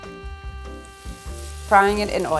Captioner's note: tomato paste sizzles